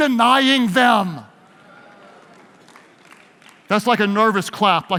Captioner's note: audience cheers